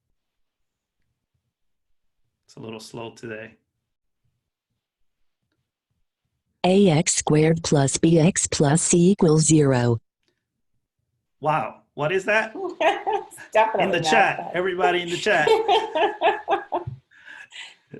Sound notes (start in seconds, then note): 4.3 computerized voice; 12.4 laughing; 14.6 laughter